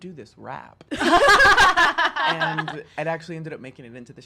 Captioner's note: women laugh